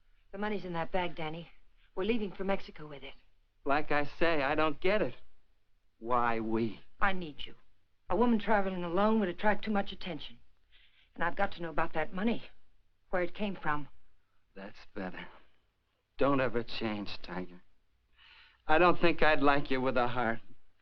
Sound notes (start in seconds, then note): none